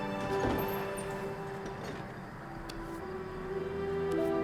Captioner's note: airplane engine roars